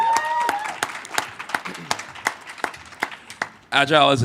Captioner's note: applause